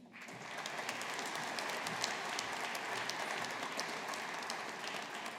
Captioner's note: audience applauding